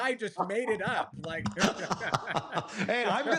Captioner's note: laughter